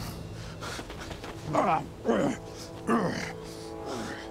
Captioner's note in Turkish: İnleme sesi